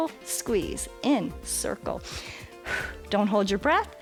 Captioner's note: exhales